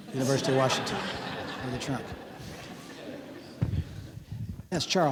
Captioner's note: audience laughing